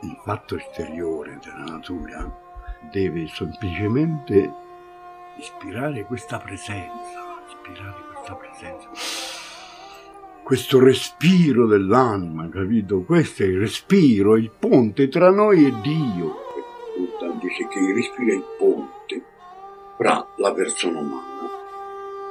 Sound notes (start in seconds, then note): 8.9 inhaling loudly